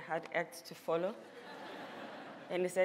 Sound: laughter

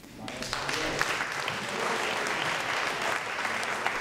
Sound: audience applause

